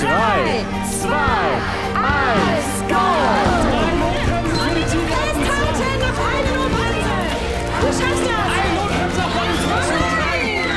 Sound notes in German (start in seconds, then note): 4.6 Musik, Anfeuerungsrufe